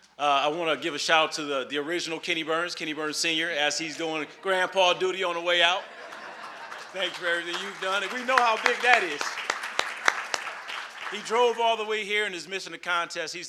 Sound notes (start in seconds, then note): 5.2 audience laugh; 6.0 audience clapping